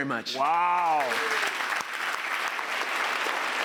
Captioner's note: applause